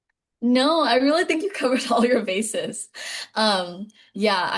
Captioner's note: laughing